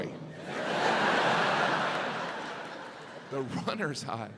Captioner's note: audience laughs